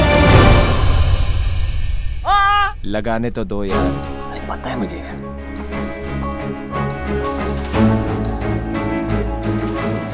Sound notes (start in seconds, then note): 2.2 Ved screams